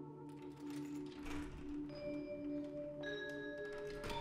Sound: door creaking

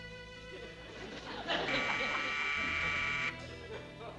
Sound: slow dance music; doorbell buzzing

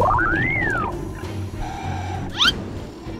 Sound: inhale

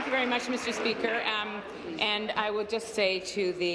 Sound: applause

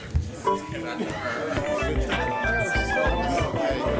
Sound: chorus of ayes

